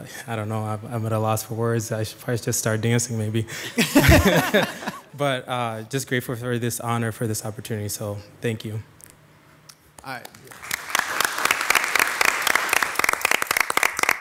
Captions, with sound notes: I don't know, I'm at a loss for words. I should probably just start dancing maybe, (audience laughing) but just grateful for this honor, for this opportunity. So, thank you. - All right. (audience clapping)